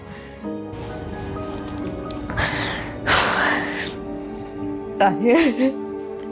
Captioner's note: sad music; crying